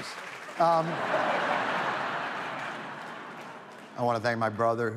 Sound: audience laughs

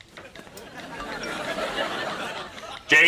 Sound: phone chiming

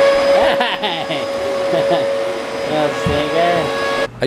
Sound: laughs

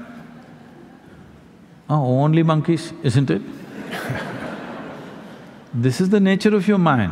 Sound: laughter

